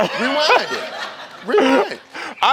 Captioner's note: audience laughs